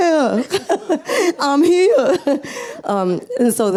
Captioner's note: laughs